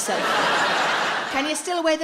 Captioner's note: audience laughs